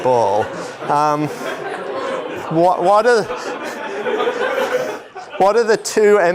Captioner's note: laughter